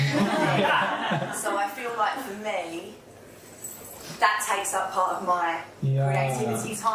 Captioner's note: laughter